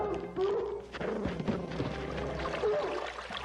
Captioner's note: dog barking; footsteps crunching; water splashing; dog barks